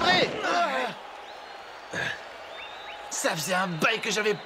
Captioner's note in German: beifall